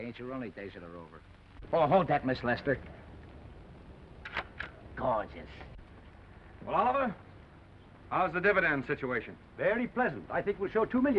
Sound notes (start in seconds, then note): 4.2 shutter clicks